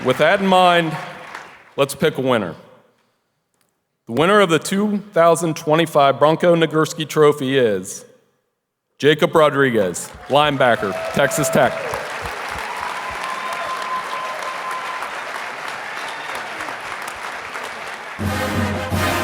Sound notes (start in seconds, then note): 12.1 audience applauding; 15.2 upbeat music